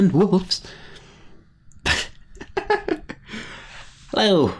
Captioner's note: silly laugh